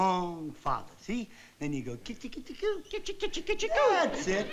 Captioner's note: baby talk